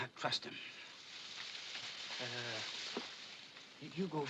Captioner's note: grass rustling